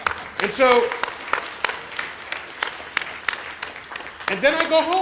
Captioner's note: applause